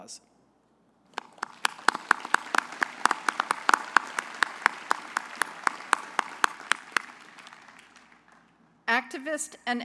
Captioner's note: applause